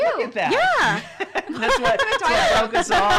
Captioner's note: laughing